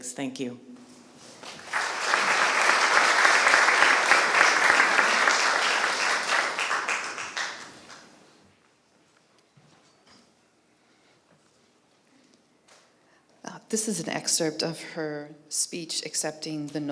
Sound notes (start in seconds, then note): 1.3 applause